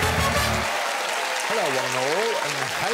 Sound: audience cheering; upbeat music

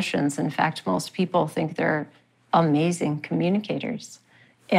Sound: none

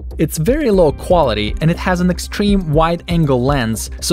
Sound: none

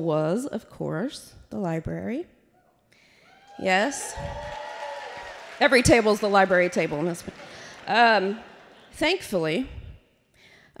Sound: applause

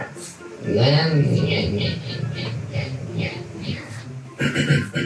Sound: mumbles from the depths of the soul

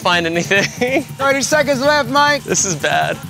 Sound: laugh

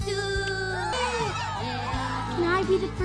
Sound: Minions cheering

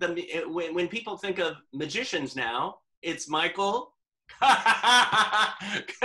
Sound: laughter

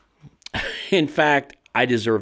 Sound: chuckles

